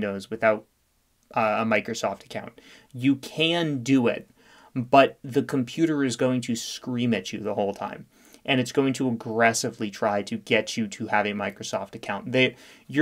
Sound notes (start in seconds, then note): none